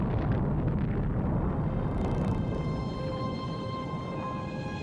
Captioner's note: bombs